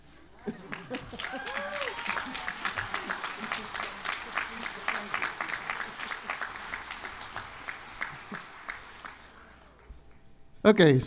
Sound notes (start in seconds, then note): 2.8 applause